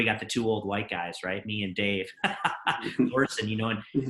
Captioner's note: laughs